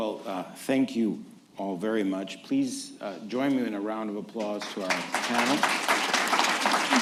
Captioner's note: applause